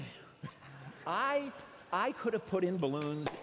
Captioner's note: laughter